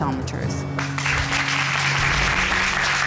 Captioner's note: applause